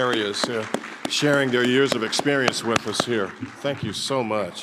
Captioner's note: audience applauding